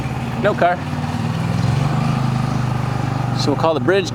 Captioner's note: motor burbling